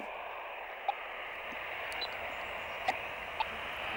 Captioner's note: machine beeping